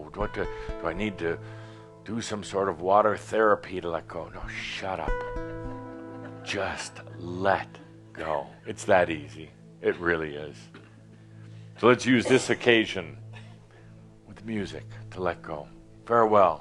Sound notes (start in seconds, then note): 5.6 a few chuckles